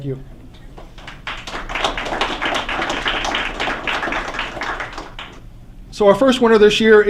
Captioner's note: applause